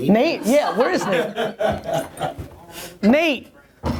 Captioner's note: laughter